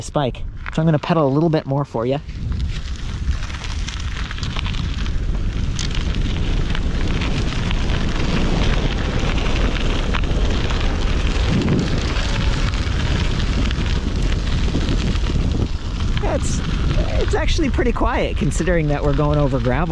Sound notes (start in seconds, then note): 3.0 wheels rumbling; 6.3 wind rustling